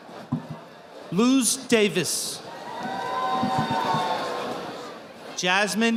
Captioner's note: audience applauding